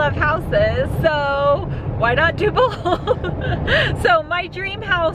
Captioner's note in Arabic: يضحك